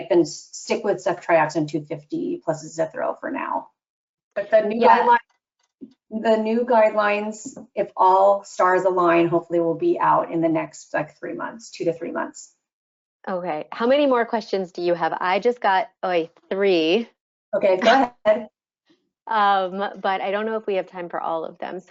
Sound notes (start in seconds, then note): 17.8 laughs